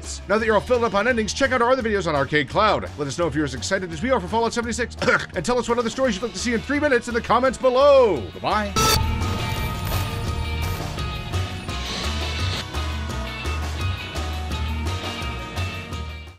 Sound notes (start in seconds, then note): 5.0 coughs; 8.7 intense music